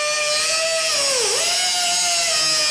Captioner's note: grinding noise